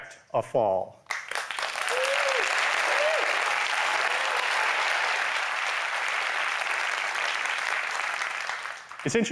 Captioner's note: applause